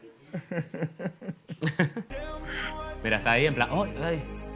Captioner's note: both laugh